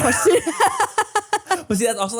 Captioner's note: laugh